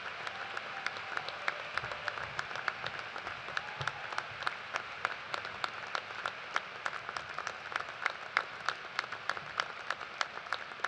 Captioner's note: applause